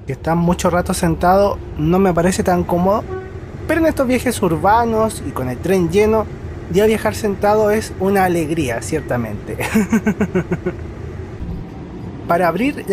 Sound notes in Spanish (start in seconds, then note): 9.6 risas